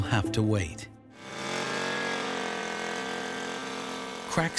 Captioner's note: drilling in ice